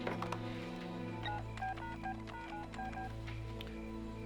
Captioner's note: phone beeping